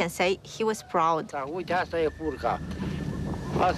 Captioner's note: speaking Romanian